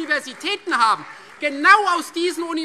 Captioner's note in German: Beifall Freie Demokraten